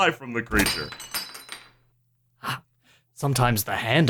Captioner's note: clattering